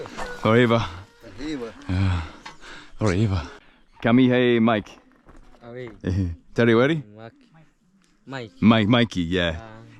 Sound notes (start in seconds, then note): 0.6 speaking foreign language